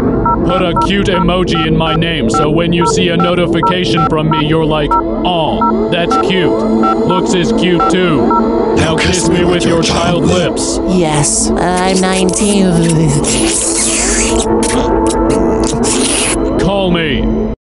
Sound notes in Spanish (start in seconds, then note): 9.2 Voz demoniaca; 13.3 sonidos de besos y chupetes